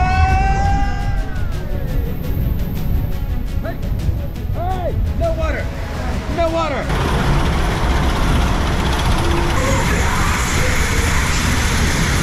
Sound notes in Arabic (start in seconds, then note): 0.0 صراخ; 3.3 موسيقى المغامرة